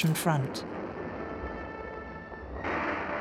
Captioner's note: explosions booming; dramatic music